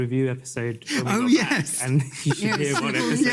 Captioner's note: laughs